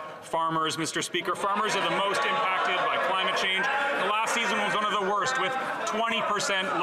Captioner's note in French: voix de l'interprète